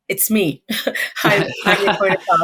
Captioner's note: laughs